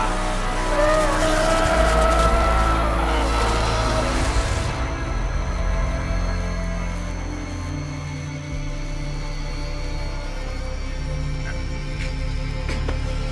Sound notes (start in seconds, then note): 6.4 electricity crackling; 6.4 tense music